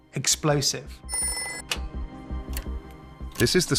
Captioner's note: phone ringing